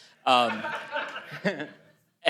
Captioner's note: laughter